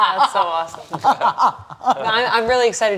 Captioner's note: continues cackling